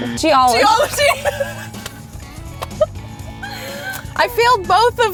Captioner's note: both laughing